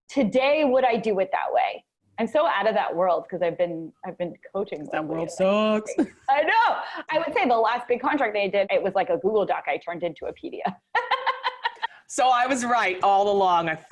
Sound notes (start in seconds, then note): 5.9 chuckles; 10.9 laughs